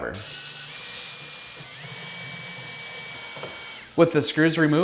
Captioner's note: power drill whirring